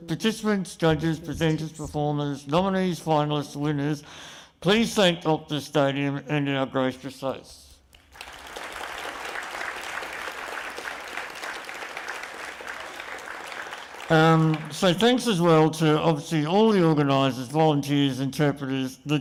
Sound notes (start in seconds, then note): 7.9 applause